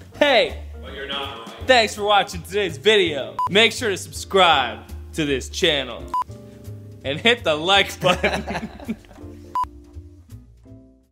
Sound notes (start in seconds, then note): 8.0 laughs